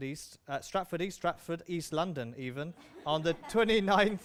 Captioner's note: laughter